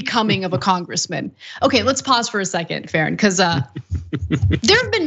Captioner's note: laugh